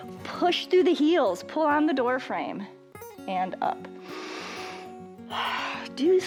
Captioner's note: inhales and exhales